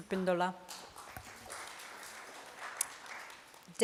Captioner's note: applause